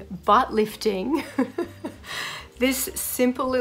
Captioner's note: laughs